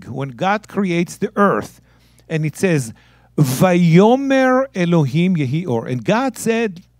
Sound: speaking in Hebrew

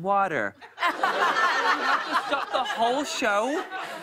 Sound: normal voice; laughter

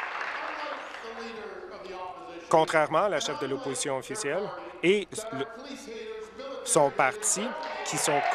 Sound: applause

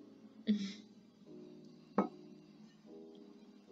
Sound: sipping coffee

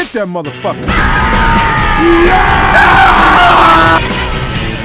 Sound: TF2 Scream Intensifies

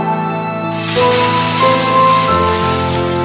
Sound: glass shattering

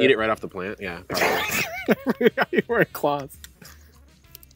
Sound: laughs

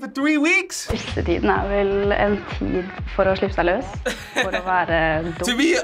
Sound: speaking Norwegian

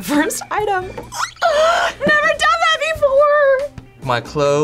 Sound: gasps

